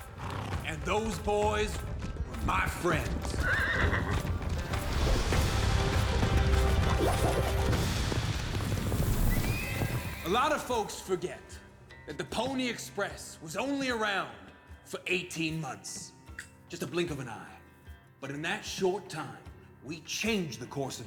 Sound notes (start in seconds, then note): 2.9 horse neighs